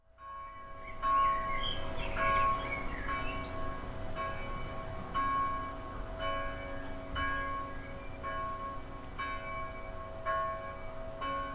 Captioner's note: bells and calling of sea birds